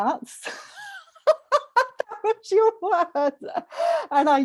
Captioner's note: laughs